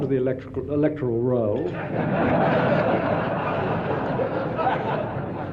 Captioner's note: audience laughing